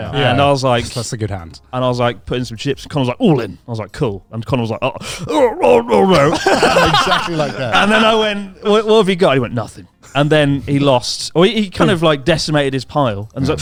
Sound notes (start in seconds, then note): 5.2 laughs